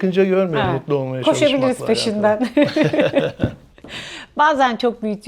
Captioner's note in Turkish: kahkaha